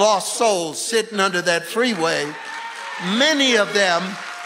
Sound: congregation applauding

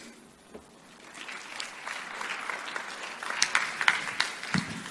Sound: clapping for speaker

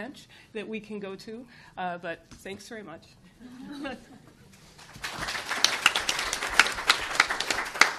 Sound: applause

